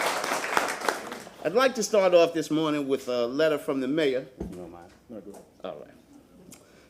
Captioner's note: applause